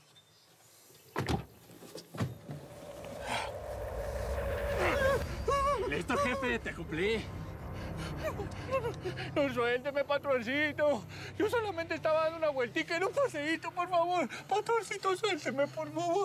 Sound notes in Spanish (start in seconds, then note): 5.1 se oyen gemidos